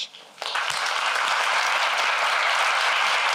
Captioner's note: applause